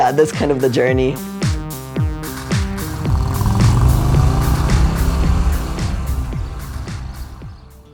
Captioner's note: sound of motorcycle, ♫ ♫